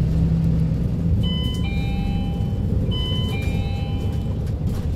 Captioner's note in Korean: 하차벨 소리